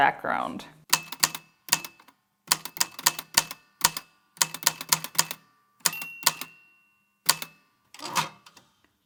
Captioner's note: the typewriter clicks and clacks away, with dings here and there